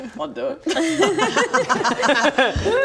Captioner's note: no-regrets laugh